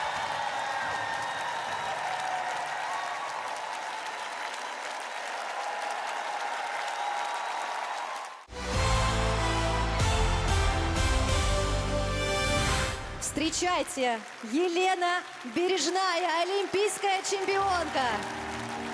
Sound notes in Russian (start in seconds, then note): 3.6 аплодисменты; 3.6 ликование